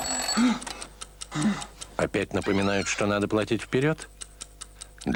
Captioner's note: loud breathing